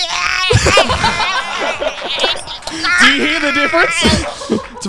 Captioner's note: everyone laughing; groaning